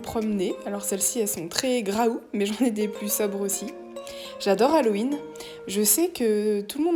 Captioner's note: laughing